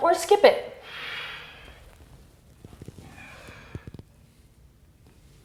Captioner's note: deep breathing